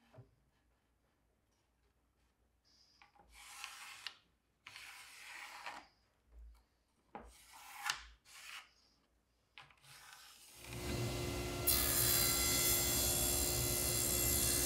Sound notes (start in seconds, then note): 4.6 pencil scrapes; 10.6 saw zings